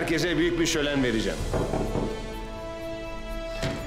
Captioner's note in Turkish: Kapı tıklama sesi